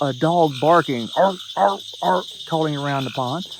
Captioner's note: Sheldon barking